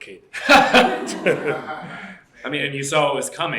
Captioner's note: laughter